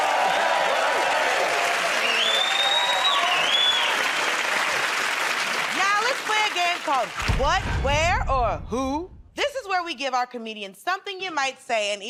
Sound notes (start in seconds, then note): 2.4 cheers and applause